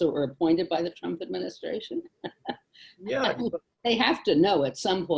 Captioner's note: laughs